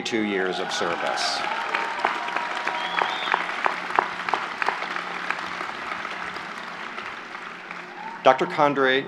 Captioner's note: applause